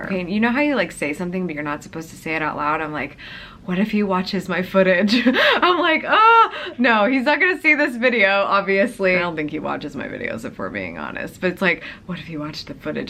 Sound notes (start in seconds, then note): 5.1 laughing